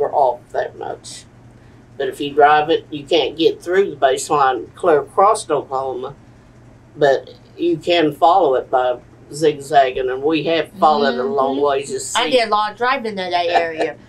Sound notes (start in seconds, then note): 13.3 laughs